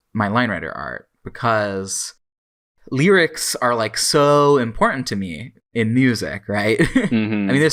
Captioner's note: laughs